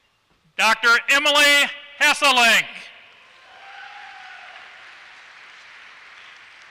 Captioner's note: applause